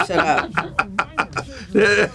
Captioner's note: Gould laughing